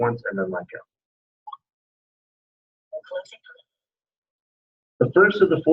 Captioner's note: indecipherable system noises